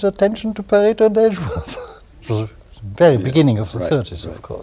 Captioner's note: laughter